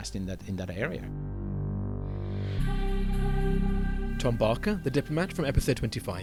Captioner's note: voiceover